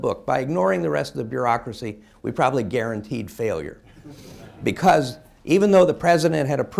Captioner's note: laughter